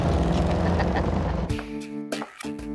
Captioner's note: Joe laughing